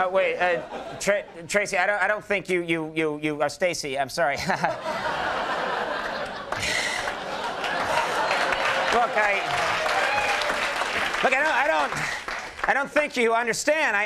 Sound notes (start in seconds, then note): 4.4 chuckles; 4.4 audience laughs; 9.7 audience applauds